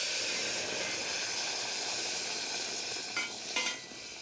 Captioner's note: sauce sizzles